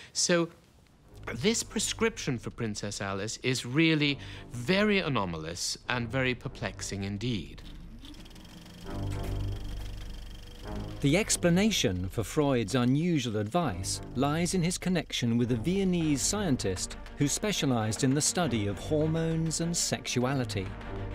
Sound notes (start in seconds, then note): 8.9 tense music; 9.5 machine clicking